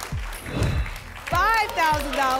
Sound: whoosh

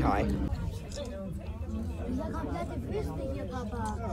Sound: crowd talking

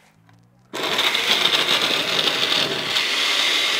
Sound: blender sound

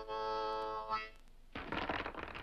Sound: blocks clattering

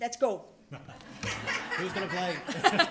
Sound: laughter

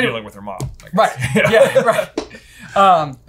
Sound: laughing

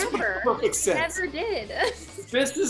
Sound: laughs

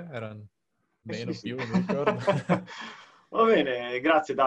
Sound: laughs

